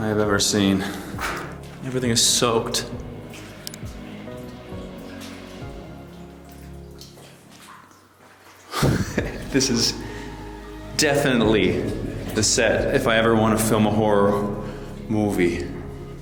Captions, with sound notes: I have ever seen. I'm getting soaked. (laughs) This is definitely the set if I ever wanna film a horror movie.